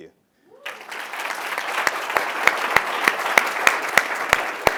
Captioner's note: applause